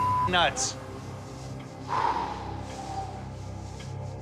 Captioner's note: exhales slowly